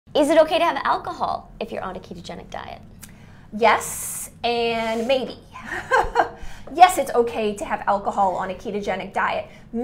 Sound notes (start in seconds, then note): 5.6 laughs